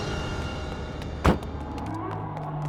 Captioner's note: door slams; discordant tense music